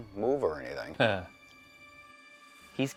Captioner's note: chuckles nervously